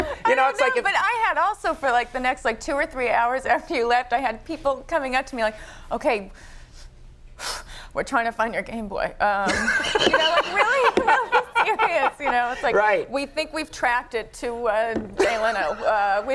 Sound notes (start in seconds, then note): 0.0 Conan laughing; 6.5 Lisa exhaling; 9.5 Conan laughing